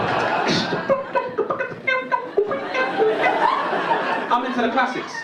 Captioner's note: audience laughing; makes musical sounds